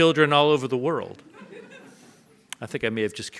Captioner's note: audience laughs